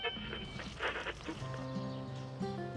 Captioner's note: radio tuning